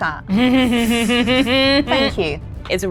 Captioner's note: chuckles